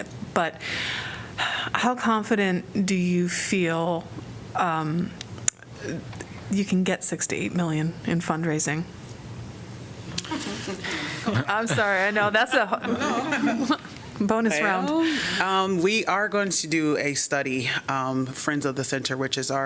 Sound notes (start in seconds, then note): 10.2 laughter